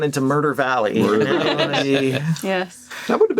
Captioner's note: all laughing